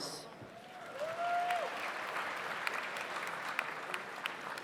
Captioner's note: audience applauds